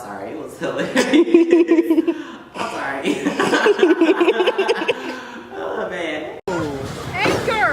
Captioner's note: laughs